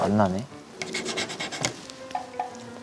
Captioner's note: Scratch